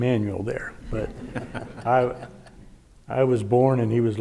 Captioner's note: audience laughing; laughing